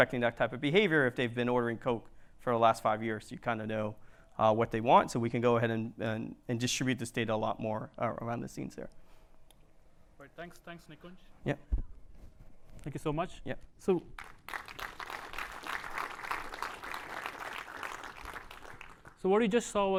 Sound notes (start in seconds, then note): 14.1 applause